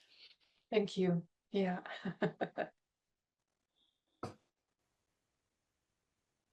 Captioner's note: laughter